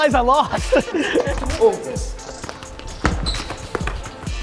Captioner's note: laughs